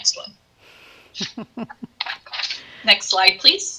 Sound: giggles

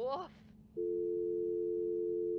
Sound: dial tone

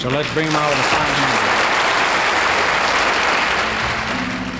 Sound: audience applauding

